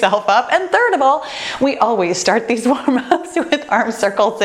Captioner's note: laughs